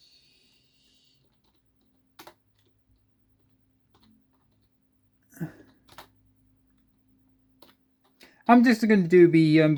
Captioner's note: keyboard typing sound